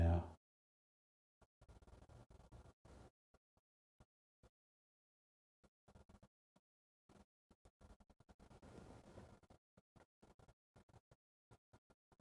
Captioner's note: silence